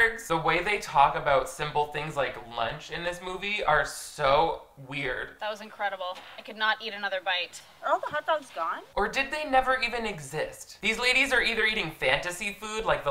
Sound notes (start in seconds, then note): none